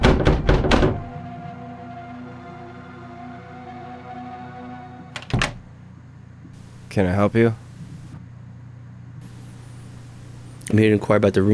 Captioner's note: door opening